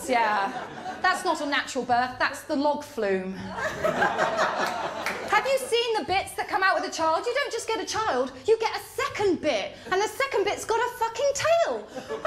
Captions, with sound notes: ‘Yeah, that’s not a natural birth, that’s the log flume.’ [LAUGHTER] Have you seen the bits that come out with the child? You don’t just get a child. You get a second bit, and the second bit’s got a fucking tail.